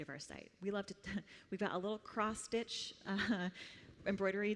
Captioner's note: chuckles